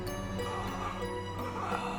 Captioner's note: heavy breathing